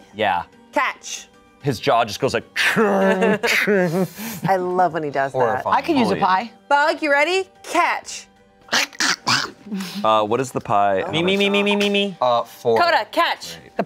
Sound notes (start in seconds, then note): 3.0 imitates machine clanking; 8.7 grumbles